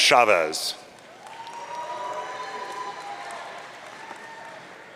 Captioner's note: audience cheering